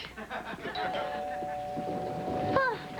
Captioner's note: doorbell rings